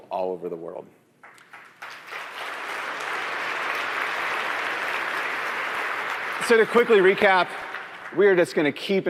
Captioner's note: applause